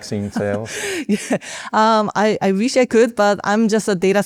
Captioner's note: chuckles